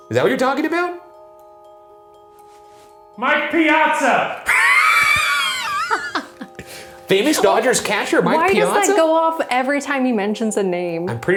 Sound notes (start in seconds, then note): 2.3 eerie music; 4.4 laughing